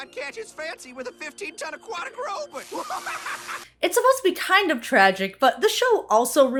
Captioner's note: maniacal laughter